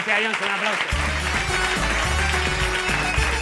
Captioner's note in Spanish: Aplausos